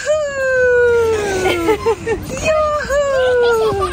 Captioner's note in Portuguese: risos